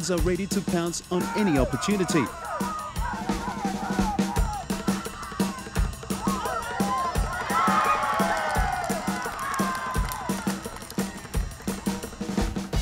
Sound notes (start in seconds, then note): 2.5 cheering